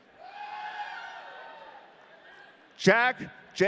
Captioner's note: audience cheering